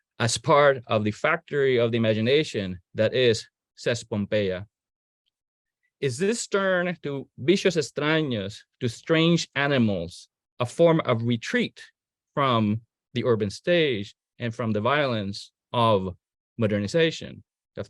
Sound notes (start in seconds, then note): 6.6 speaking in foreign language